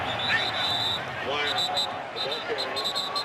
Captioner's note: whistling